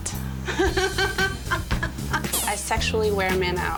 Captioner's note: laughing